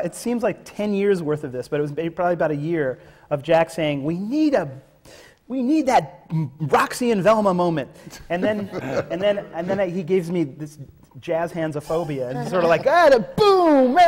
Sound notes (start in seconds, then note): 8.3 laughter from the panel